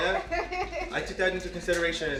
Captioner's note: chuckles